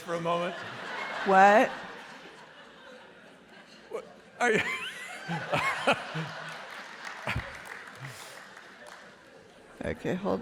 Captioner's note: laughter; laughter